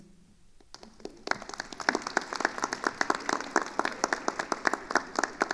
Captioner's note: attendees applauding